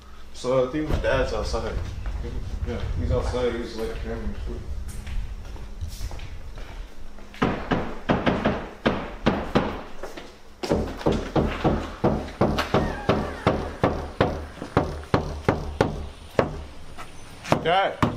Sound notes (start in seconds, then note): 7.3 hammering